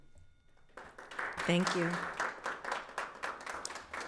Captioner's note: audience applauds